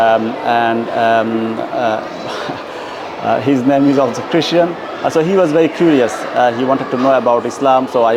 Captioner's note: হাসি